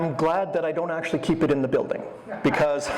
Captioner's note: audience laughter